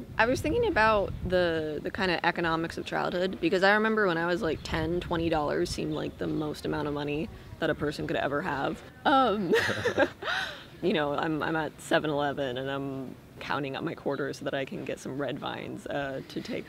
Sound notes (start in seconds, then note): 9.4 laughter